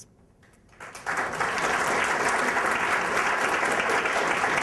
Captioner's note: applause